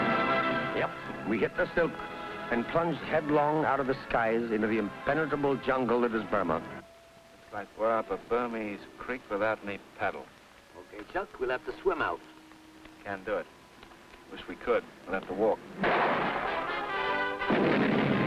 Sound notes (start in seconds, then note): 15.8 gunshot; 17.4 explosion